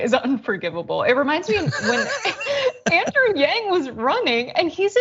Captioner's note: laugh